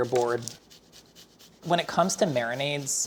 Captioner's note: ginger grates